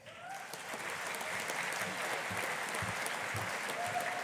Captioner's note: audience applauding